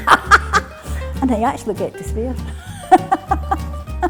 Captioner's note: laughs; laughs